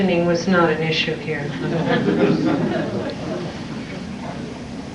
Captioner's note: chuckling